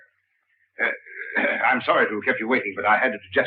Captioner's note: coughs